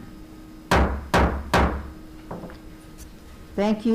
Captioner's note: gavel bangs